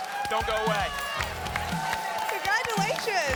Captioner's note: applause and cheering cont